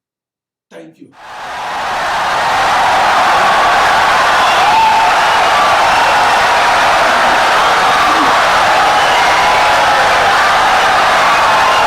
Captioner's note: wild applause and cheering for 17 seconds